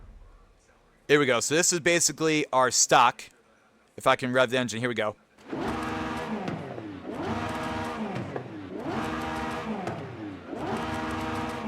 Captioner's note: engine revving